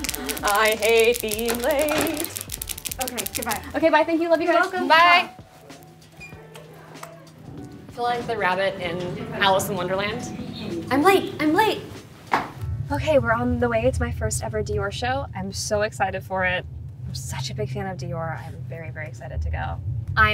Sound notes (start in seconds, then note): 0.0 assistant laughs in background; 0.0 nails click